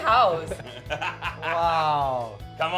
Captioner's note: laughing